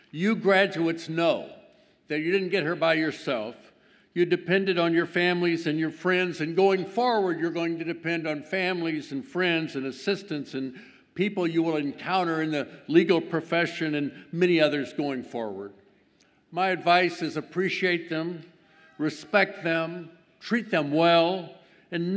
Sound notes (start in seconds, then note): none